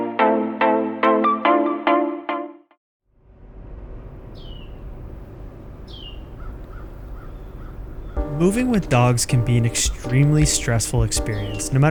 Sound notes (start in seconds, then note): 4.2 birds chirping